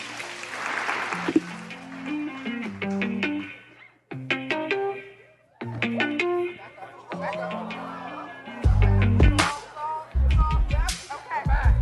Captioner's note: applause